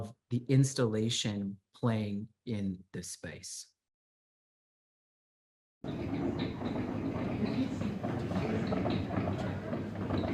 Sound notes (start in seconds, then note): 5.8 piano keys clacking